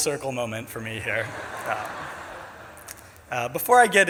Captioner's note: audience laughs